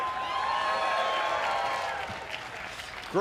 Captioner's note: cheers & applause